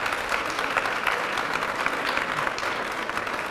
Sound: applause

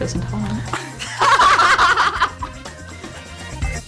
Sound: laughing

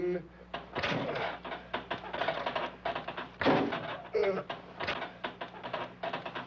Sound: pulley system knocking; Roy grunting

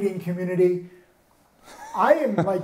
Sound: chuckles

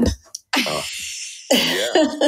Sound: laughter

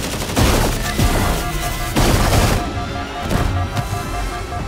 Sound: HUD alarm beeps

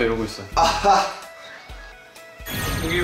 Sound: hahaha

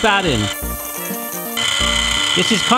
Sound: whisking

